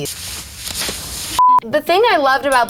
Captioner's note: beep